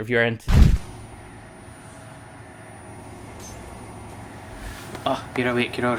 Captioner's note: crash; whirring noise